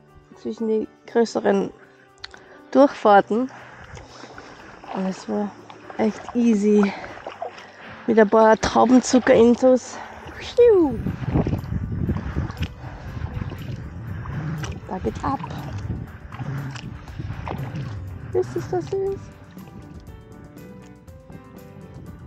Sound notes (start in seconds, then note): 2.6 upbeat music; 12.6 paddling